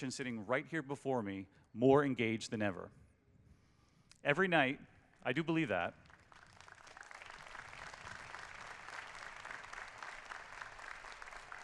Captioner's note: applause